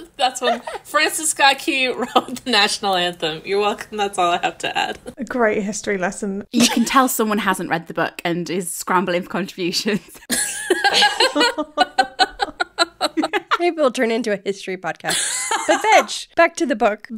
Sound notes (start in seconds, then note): 10.3 laughing; 15.1 laughing